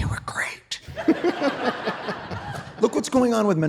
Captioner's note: audience laughing